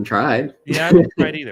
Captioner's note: chuckles